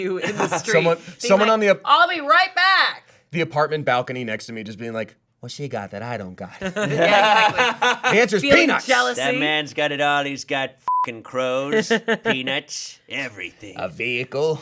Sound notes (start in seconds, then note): 6.6 group laughing; 10.8 beep